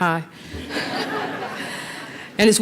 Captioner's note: laughter